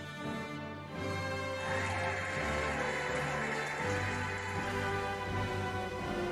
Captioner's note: cheering and applauding